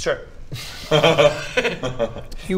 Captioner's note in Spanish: risas